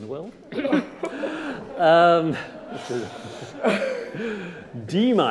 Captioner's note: audience laughing